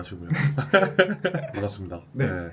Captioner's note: laughs